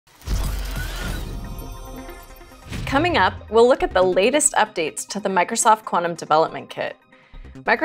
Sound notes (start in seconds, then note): 0.2 electronic whooshing